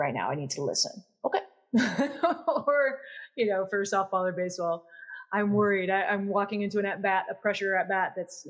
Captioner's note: laugh